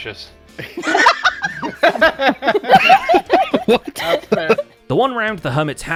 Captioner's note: everyone laughs